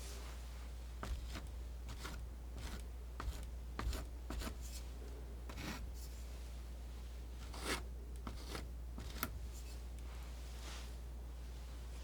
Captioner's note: scratching